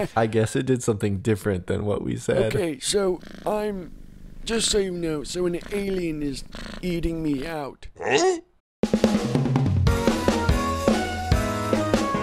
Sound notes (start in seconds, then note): 8.0 surprised sound; 9.9 upbeat music